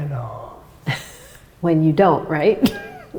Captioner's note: laughs